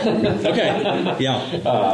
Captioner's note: laughter